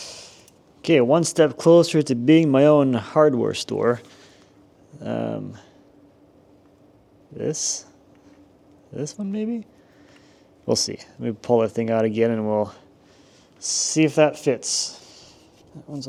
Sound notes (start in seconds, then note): none